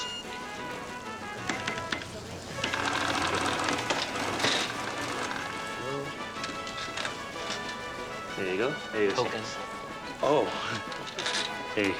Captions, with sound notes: (register cranking) There we go... There you go. - Token. - Oh...